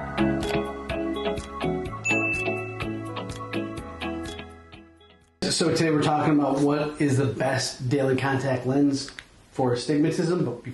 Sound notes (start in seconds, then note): 2.0 bell chiming